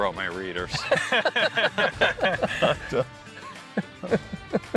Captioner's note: everyone laughs